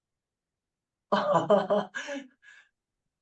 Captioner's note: chuckle